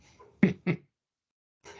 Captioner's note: chuckling